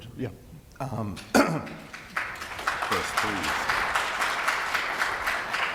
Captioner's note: applause